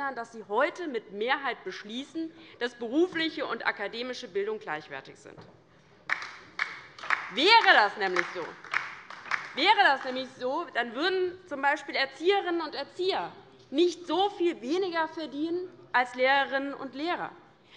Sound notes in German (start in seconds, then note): 6.2 Beifall bei der : Genau!